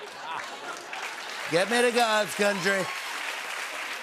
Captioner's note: applause; as Trump